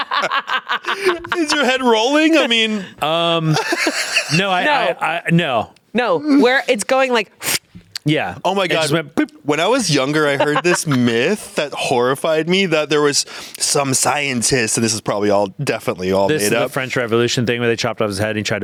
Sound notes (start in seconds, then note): 7.4 blowing